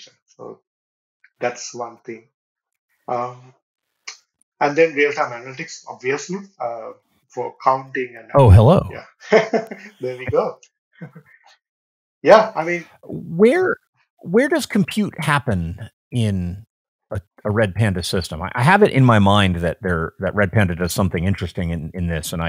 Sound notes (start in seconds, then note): 9.3 laughing